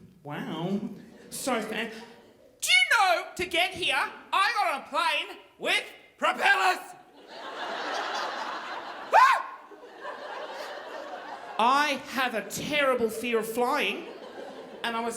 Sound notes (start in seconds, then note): 7.1 audience laughing; 9.1 screaming